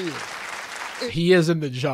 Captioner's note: audience clapping